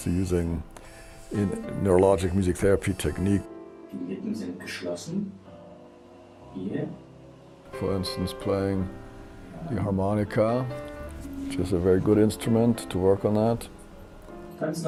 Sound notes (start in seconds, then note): 4.2 therapist speaking in German; 14.6 therapist speaking in German